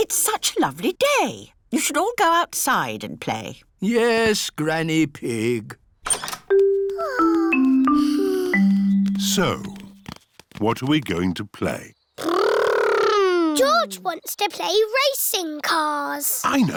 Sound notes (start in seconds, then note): 7.8 peppa and george sigh